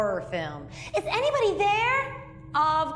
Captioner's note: mocking